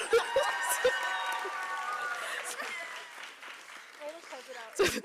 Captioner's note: applause